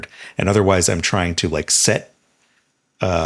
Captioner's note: none